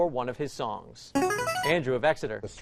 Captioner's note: chiming